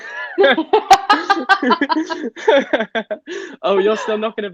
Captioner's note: both Laughing